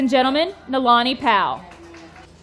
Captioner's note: audience clapping